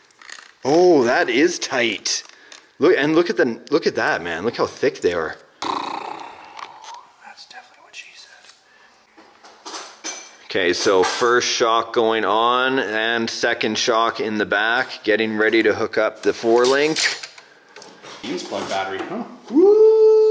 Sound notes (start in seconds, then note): 5.6 blows out air; 7.5 whispers; 9.4 metals clanging